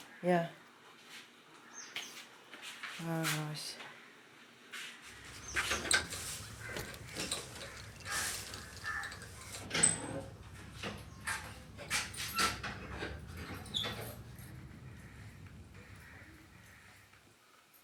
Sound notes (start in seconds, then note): 5.5 lock creaks; 10.0 hinges creaking